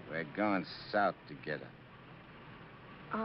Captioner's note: none